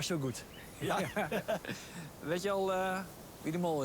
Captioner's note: laughter